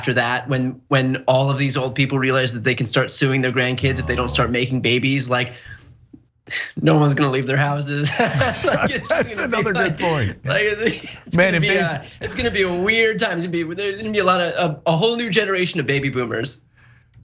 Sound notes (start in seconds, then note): 8.3 laugh